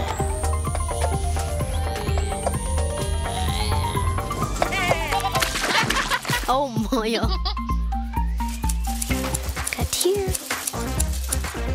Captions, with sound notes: (bleating) (laughter) - Oh, Moyo. - Cut here.